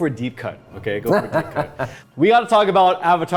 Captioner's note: laughing